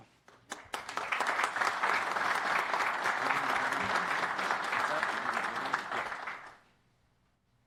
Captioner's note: applpause